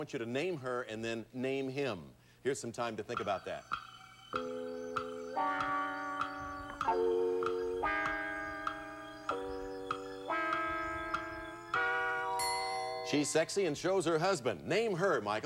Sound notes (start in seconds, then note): 4.3 clock ticking